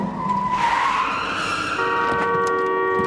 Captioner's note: tires screeching; horn blares